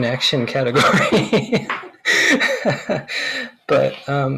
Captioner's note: laughs